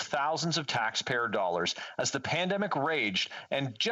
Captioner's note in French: voix de l'interprète